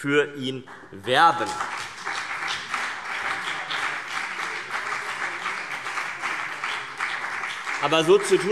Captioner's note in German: Beifall CDU und BÜNDNIS 90/DIE GRÜNEN